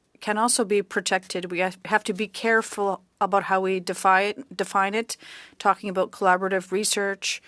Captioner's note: speaking French